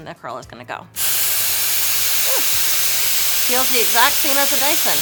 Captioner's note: dryer whirs